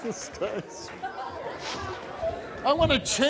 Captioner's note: laughs